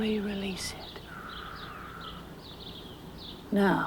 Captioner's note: Danny exhales slowly